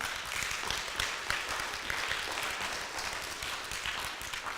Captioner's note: audience applauds